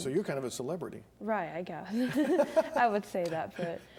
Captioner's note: laughs